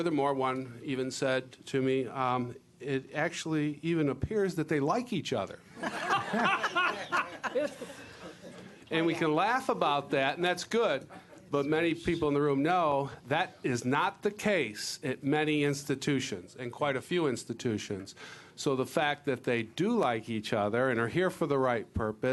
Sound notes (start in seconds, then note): 5.8 laughing